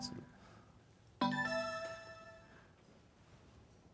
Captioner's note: electronic startup sound